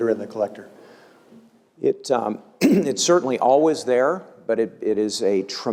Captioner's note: cough